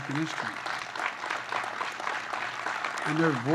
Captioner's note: applause